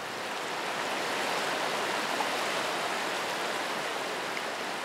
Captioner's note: river babbling